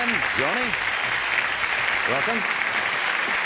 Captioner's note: applause